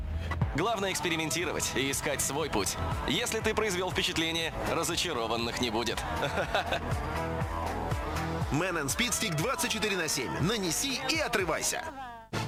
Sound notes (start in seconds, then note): 6.0 laughter; 6.0 rhythmic music